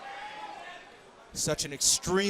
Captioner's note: crowd chatter